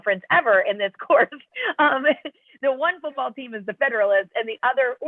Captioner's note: laughter